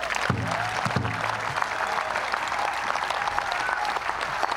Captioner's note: applause